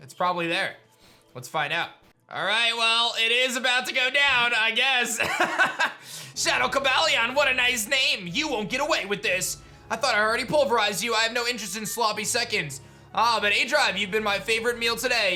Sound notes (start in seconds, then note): 5.2 laughs